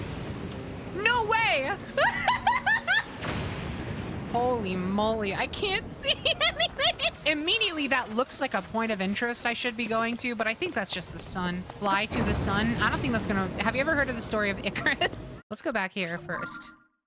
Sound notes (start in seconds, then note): 1.9 laughter; 6.0 laughter; 15.1 laugh